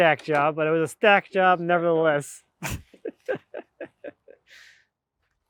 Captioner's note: laughs